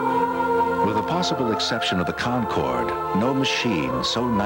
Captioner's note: different voice, quoting Car and Driver